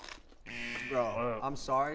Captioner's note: buzzer blares